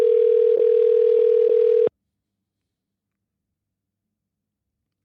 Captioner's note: phone ringing